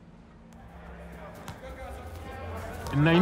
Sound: chattering

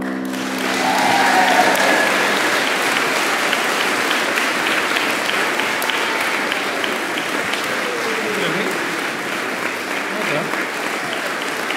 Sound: applause

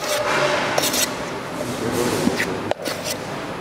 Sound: rumbling, rattling in the background

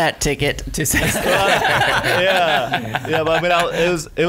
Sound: laughing

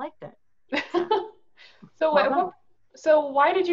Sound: laughs

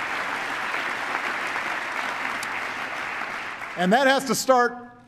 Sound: applause

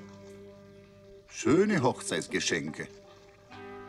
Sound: in German

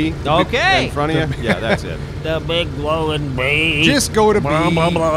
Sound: sarcastically

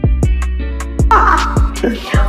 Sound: laugh

